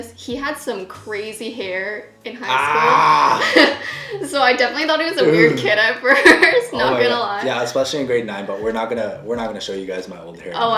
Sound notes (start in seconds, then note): 2.5 shouts